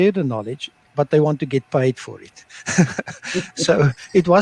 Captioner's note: laughter